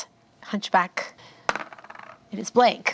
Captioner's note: die rolls